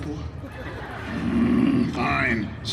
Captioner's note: guests chuckling